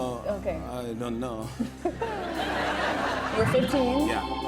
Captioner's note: laughter